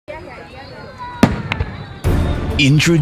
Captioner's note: fireworks